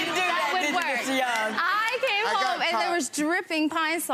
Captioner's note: people laughing